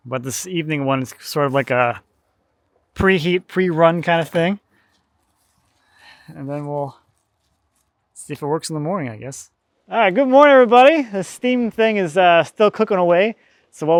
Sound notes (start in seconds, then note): none